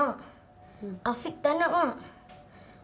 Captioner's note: in Bahasa Melayu